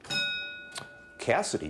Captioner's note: bell dinging